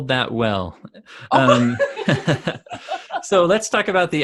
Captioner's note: both laugh